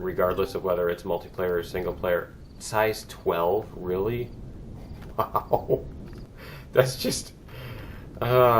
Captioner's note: ding; laughs